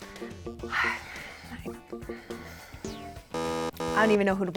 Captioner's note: sighing